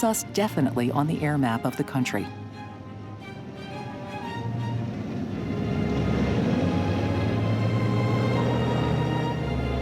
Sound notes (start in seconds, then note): 3.2 plane engine whirs